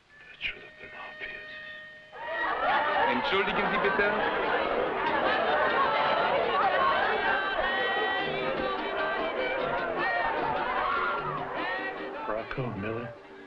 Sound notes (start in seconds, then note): 2.2 partygoers conversing loudly; 3.2 man speaking foreign language; 6.8 woman singing in foreign language